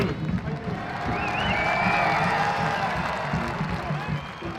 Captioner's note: crowd cheers